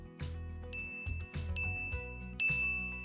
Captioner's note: ding